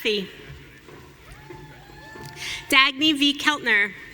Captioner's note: audience cheering